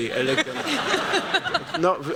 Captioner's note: laughter